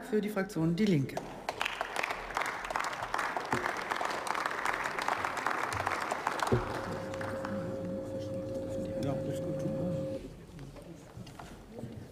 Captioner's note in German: Beifall